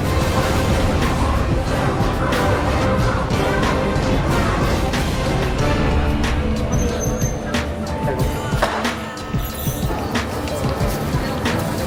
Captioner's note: street chatter and ambient city sounds